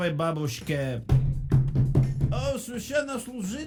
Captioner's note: foot knock